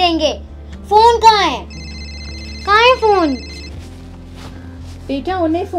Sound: phone ringing

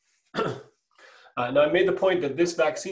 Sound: clears throat

